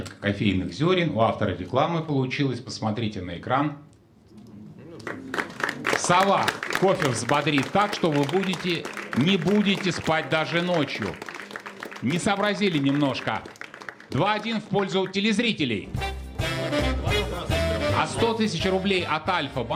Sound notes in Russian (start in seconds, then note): 9.1 аплодисменты